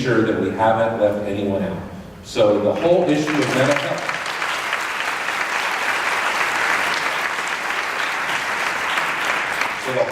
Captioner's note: applause